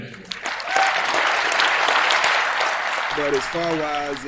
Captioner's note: attendees applauding